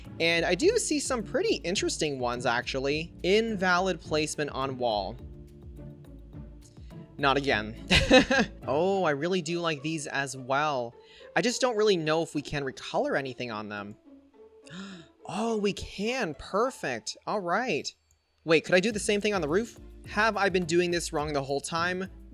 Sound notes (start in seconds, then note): 7.9 laughs; 14.6 gasps